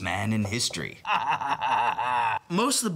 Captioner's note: maniacal laugh